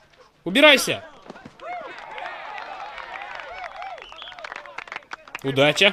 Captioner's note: whistle blows; cheering and applause